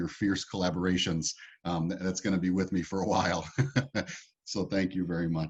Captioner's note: laughs